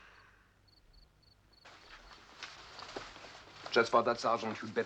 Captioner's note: none